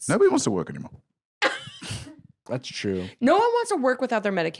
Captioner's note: laughs